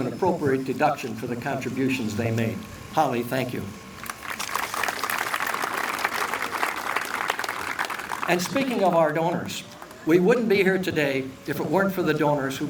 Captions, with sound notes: an appropriate deduction for the contributions they made. Holly, thank you. (applause) And speaking of our donors, we wouldn't be here today If it weren't for the donors